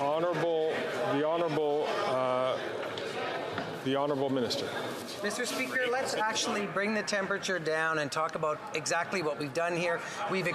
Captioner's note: chatter